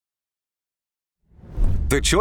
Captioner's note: logo whooshes